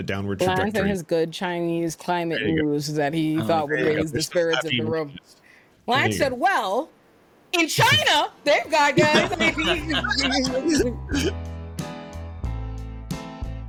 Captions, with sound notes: downward floor. Well, I thought his good Chinese climate news that he thought would raise the spirits of the room. Well, I said, well, in China, thank God, guys. (laughing) (upbeat music)